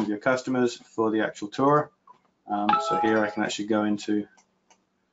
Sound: chime

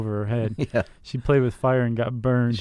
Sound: chuckles

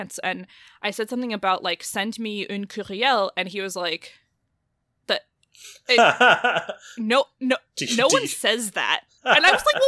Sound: laughs; stuttering

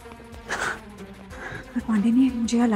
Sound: Sakshi exhales

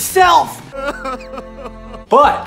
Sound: sobbing

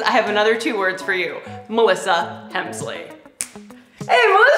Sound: snap

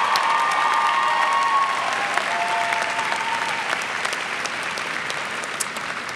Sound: cheers and clapping

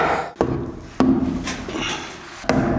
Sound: groans

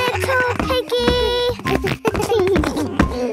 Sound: giggles

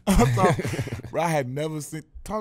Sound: laughing

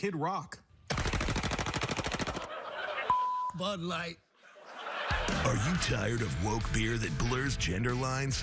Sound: gunfire

